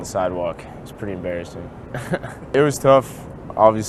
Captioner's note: chuckles